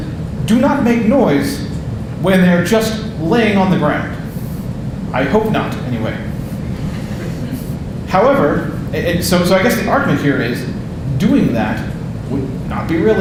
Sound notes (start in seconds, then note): 6.6 audience laughing